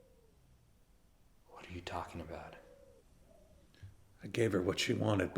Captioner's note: none